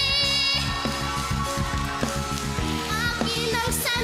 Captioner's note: audience cheering, clapping